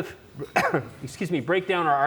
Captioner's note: coughs